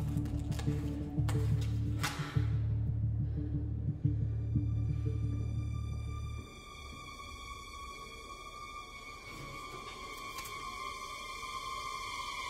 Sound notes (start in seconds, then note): 2.1 exhales; 5.5 tense music playing